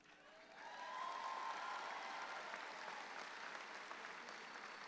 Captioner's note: audience applauding